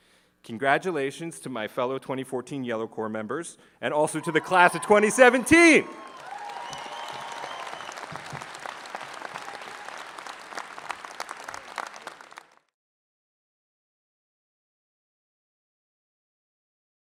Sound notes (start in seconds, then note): 6.2 cheering, applause 👏